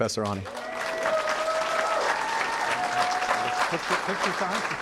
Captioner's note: applause